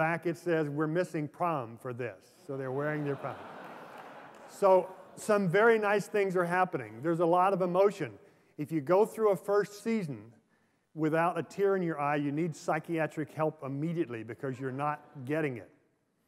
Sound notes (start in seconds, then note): 2.6 laughter